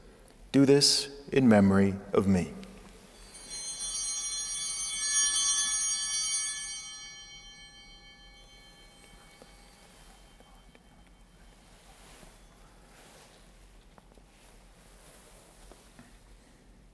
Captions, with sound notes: "Do this in memory of me." (Bell ringing)